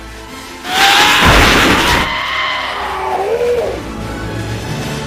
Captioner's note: anger screams